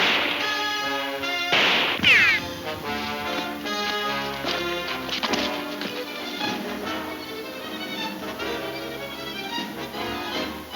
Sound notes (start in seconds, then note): 1.5 ricocheting; 1.5 gun firing; 3.7 boots scuffing